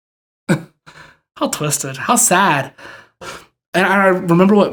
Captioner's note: chuckles